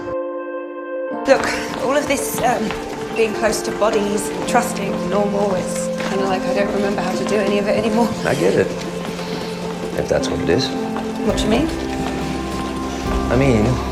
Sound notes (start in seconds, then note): 1.6 voiceover